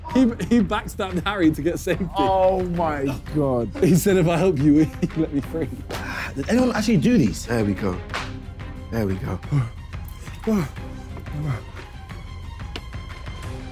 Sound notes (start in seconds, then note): 10.1 panting